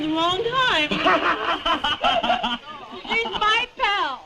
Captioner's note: laugh